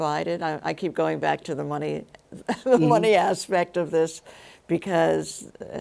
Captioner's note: laughs